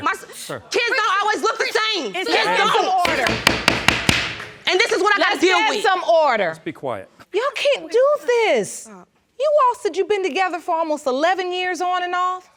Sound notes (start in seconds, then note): 3.0 banging with gavel